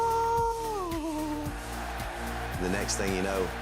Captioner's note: upbeat music; boy hums